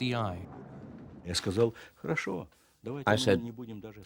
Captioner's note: speaking Russian